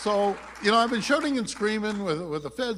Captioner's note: applause